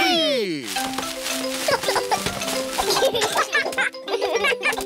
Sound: peppa and george giggle

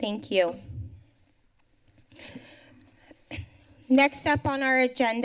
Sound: pause

